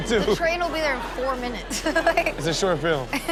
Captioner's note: laughs